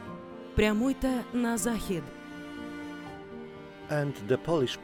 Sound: in Ukrainian

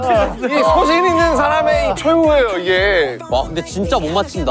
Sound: crying

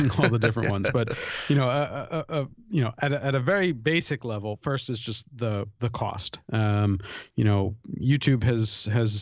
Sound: chuckle

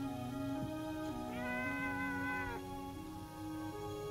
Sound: cat meowing

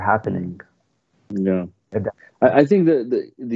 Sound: speaking foreign language

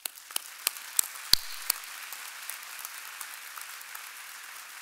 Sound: audience applauding

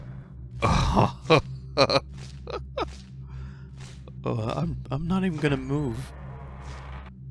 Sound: laughs

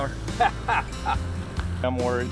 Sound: laughing

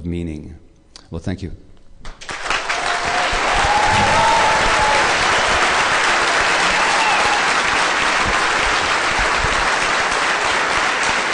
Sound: applause

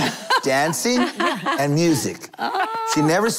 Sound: laughter

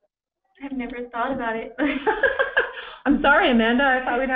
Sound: laughter

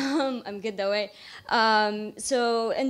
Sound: laughs

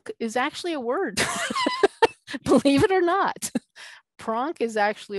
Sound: laughing

